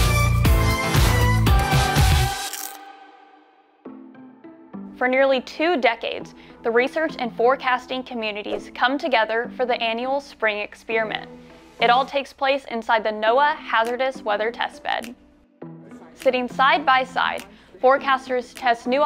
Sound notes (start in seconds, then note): 0.0 upbeat Music; 2.4 crunch sound